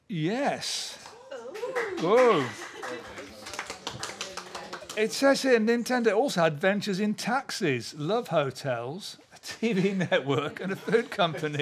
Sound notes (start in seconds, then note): 1.4 applause